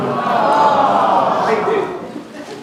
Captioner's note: aww